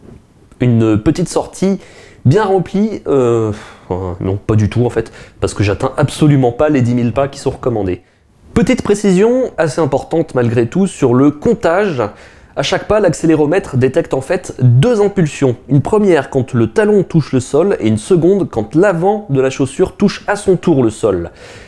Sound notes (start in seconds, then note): 3.5 sigh